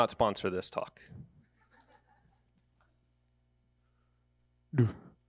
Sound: audience members laughing

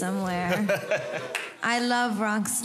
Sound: crowd laughing

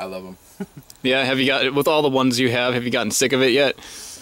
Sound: laughs

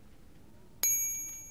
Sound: glinting sounds

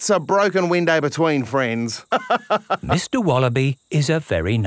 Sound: laughs

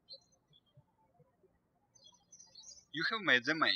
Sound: birds chirping

